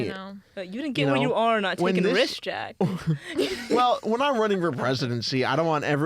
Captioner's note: laughs